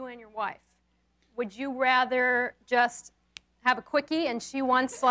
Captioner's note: snaps